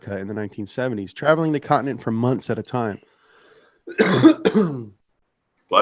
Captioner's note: coughs